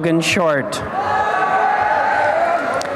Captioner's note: applause and cheering